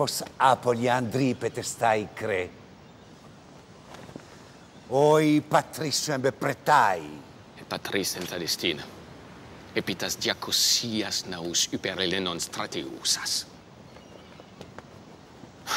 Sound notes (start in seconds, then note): 0.1 general speaking in foreign language; 8.0 Themistocles speaking in foreign language